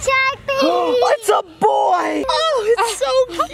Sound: gasps

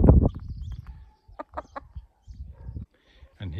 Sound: hen clucks gently

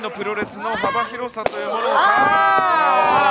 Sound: smack

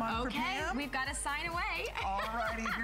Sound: laughter

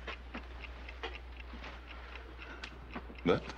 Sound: clock ticking

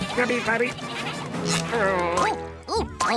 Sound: groaning

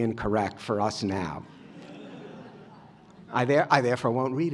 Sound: laughter

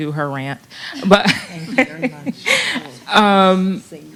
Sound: laughter

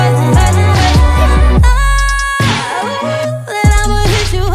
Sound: high pitched vocalizing

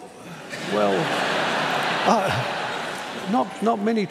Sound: laughter

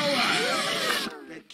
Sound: air whooshing

